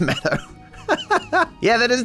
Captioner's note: laughs